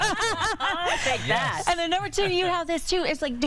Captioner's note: laughter